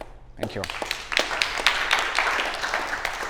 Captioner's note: applause